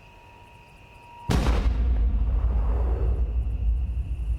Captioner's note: gun fires